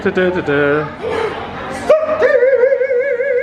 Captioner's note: sighs